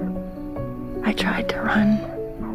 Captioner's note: voiceover